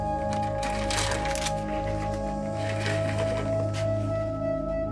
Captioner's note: paper rustles